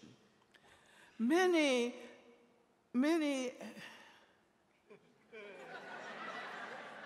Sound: audience laughing

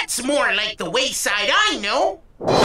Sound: explosion

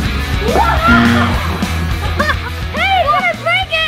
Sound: buzzer

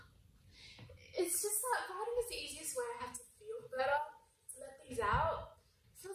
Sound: sighs

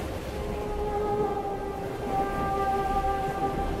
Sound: none

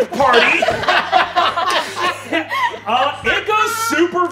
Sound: all laughing

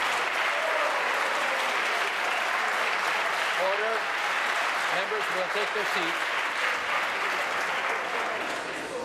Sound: applause

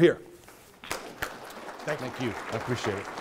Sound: applause

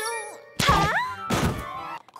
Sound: thud

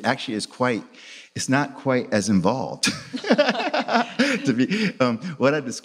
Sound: laughs

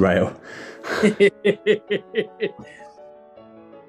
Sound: laughing

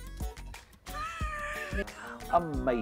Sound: laughs

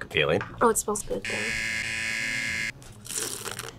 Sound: buzzer

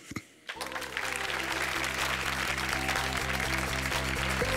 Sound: applause

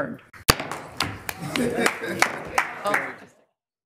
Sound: gavel bangs

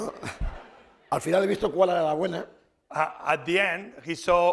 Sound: speaking spanish

